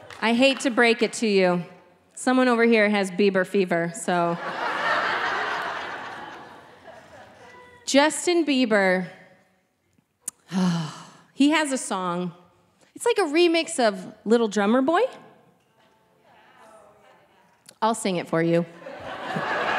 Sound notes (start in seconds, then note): 4.3 audience laughing; 10.3 sighing